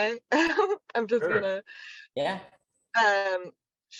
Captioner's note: Chrissy laughs